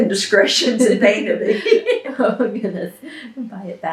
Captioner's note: laughs; laughter